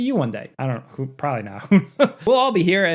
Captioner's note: chuckles